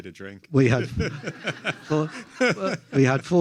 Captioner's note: everyone laughs